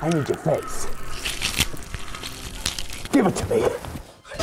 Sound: wet tearing

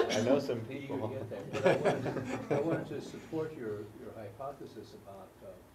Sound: laugh

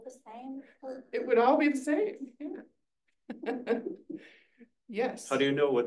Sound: laughs

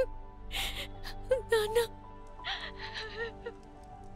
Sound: sobbing

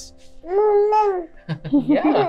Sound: baby cooing

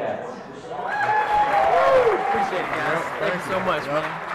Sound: audience applause

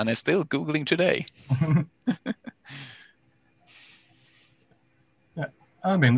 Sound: laughs

